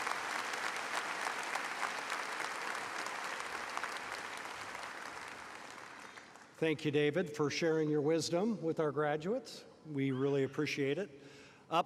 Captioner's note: applause